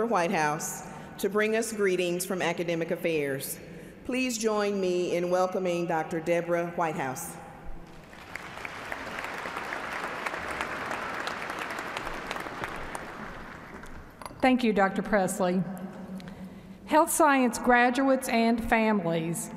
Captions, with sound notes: >> THANK YOU, PRESIDENT BENSON, I WOULD LIKE TO NOW INTRODUCE OUR PROVOST, DR. DEBORAH WHITEHOUSE, TO BRING US GREETINGS FROM ACADEMIC AFFAIRS. PLEASE JOIN ME IN WELCOMING DR. DEBORAH WHITEHOUSE. [ APPLAUSE ]